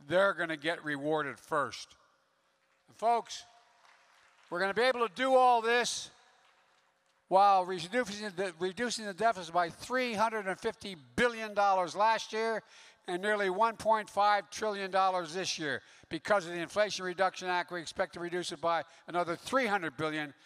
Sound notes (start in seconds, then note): 2.6 applause